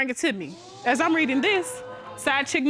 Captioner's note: audience gasping